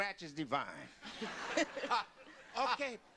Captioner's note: laughter